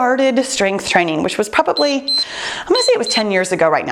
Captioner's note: timer beeps